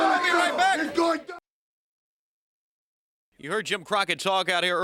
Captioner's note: crowd chatter